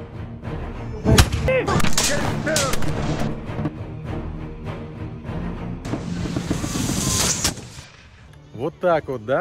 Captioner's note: sounds of gunfire